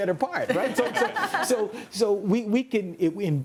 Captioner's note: laughs